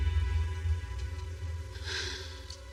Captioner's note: sighs